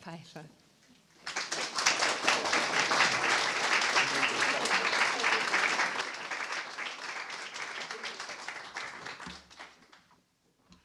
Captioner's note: applause